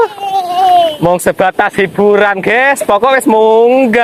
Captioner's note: laughs